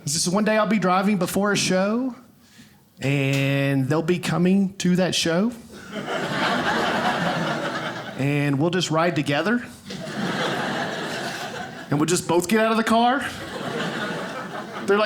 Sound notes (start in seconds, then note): 5.8 audience laughing; 9.8 audience laughing